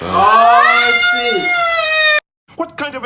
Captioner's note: agonized scream of a child who just received a bad haircut